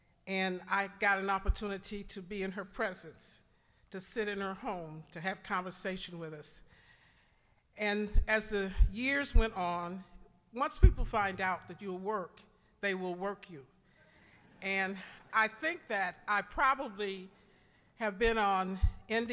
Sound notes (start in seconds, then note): 13.7 audience laughing